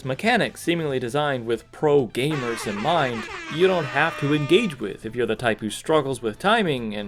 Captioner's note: airhorn